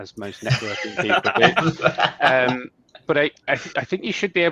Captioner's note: people laughing